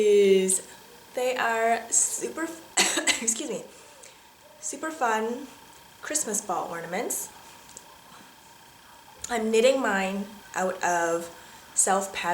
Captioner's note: cough